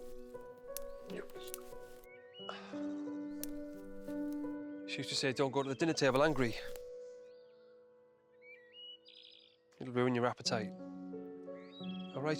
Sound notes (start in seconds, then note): 0.1 gentle orchestral music; 2.4 Jim sighing